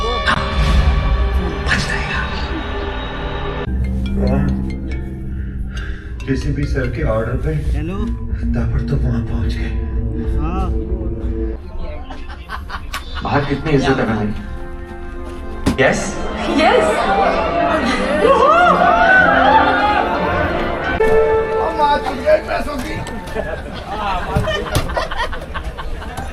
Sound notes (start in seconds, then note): 11.4 everyone laughs and chats